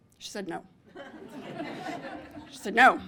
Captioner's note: laughter